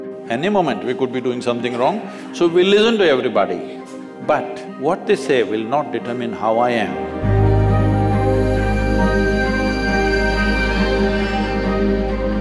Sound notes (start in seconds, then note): none